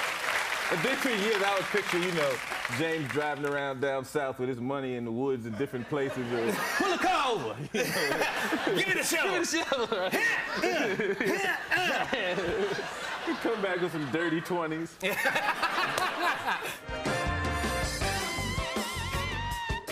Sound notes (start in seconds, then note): 15.0 laughter